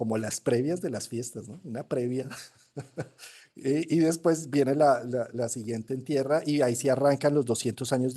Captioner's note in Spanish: risas